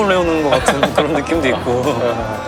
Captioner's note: hahaha